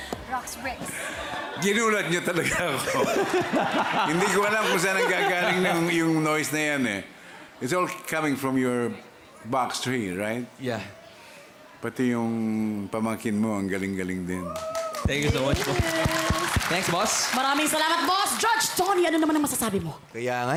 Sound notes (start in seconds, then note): 2.5 robi laughs